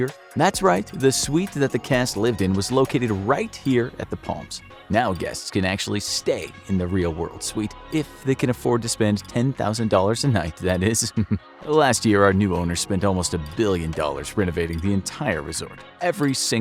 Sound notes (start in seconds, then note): 10.9 chuckles